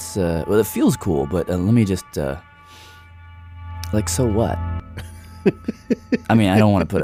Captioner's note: laughs